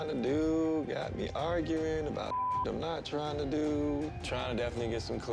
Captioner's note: beep